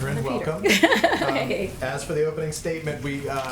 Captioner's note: laughs